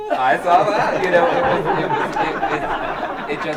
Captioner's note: group laughs